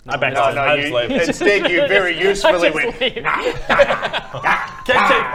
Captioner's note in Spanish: ríe